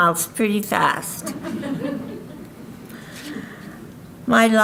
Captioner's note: audience laughing